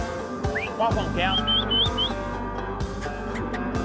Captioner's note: whistles